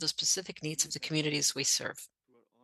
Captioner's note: speaking French